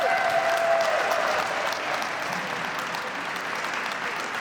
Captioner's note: applause, and pan of crowd in the Arkansa Capitol Rotunda